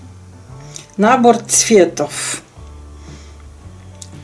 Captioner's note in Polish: rosyjski